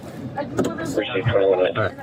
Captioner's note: radio chatter